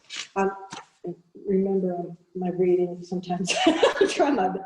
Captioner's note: laughing